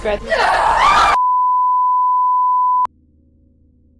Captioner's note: woman screaming